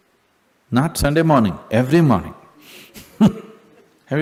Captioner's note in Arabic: ضحك